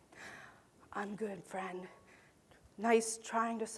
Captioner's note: whispering to audience member